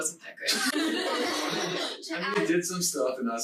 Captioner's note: laughing loudly